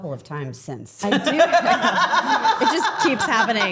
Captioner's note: Steph laughing